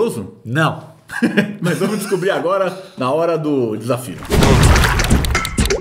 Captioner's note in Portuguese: risos